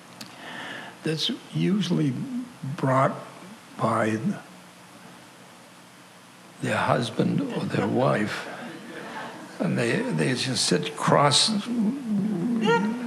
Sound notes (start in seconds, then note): 10.8 grumbles